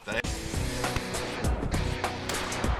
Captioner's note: gun firing